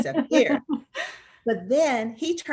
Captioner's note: laughs